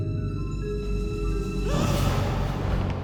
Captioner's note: gasps